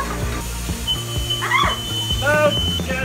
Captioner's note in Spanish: Pitido de la alarma de incendios